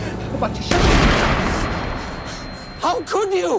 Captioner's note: gun fires